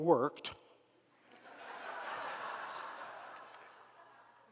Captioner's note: crowd laughs